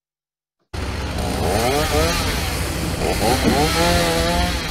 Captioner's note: chainsaw roaring